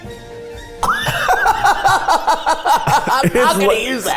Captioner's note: coughs; laughs